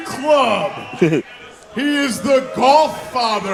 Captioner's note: chuckles